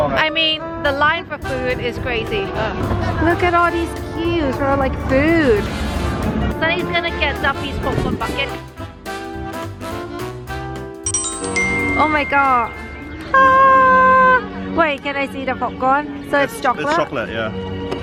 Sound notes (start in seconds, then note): 13.6 squealing